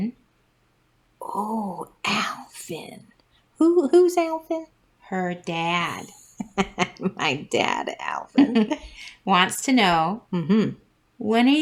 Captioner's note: laugh